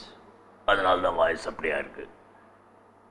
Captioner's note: Imitating Mr Karunanidhi